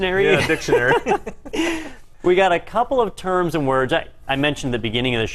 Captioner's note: laugh